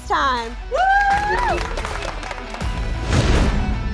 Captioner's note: all cheering; exciting music